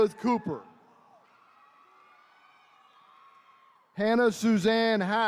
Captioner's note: attendees cheering